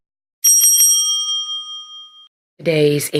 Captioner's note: bell rings